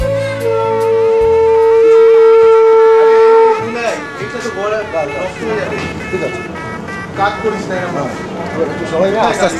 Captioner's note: blowing conch